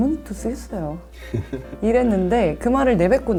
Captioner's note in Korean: 웃음